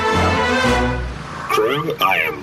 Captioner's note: transition music; calmly